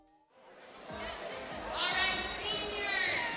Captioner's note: students chattering